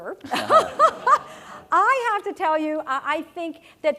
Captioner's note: laugh